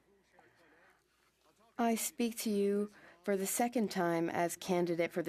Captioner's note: speaking French